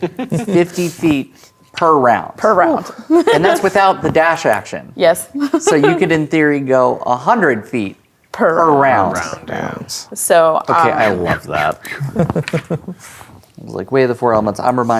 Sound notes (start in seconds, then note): 3.1 laughs; 5.4 laughs; 12.3 chuckling